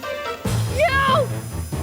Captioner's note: screams